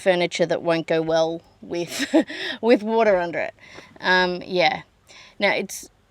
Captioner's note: scoffs